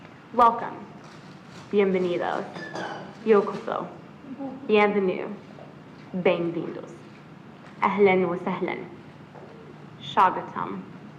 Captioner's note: foreign language